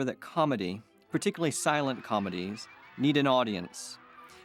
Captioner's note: laughter, wolf whistles